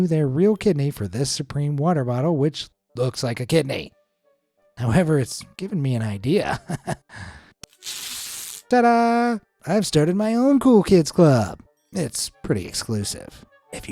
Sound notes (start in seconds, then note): 6.4 chuckles; 7.7 paper ripping